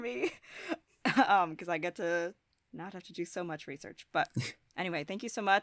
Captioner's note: chuckles